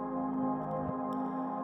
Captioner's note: none